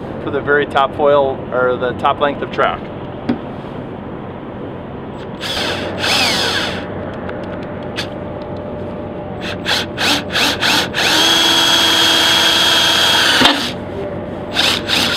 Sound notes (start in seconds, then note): 5.2 drill whining